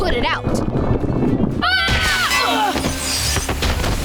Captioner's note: screaming